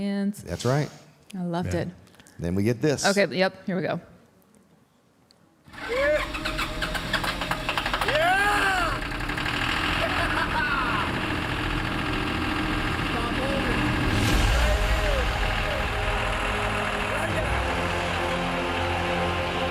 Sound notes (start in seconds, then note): 9.0 tractor roaring; 16.0 suspenseful music